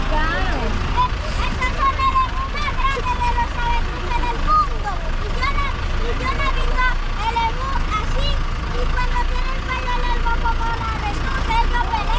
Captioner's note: child speaking